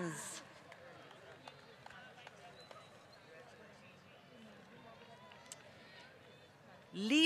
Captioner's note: applause